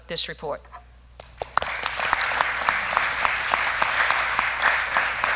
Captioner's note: applause